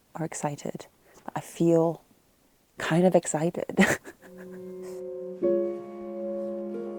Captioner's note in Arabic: يضحك; موسيقى هادئة